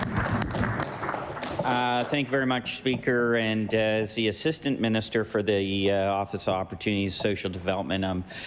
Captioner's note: applause